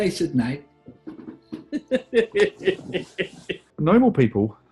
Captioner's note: laughing